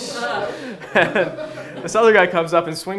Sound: laughs

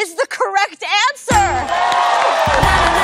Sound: cheers and applause

